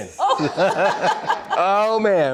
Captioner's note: all laughing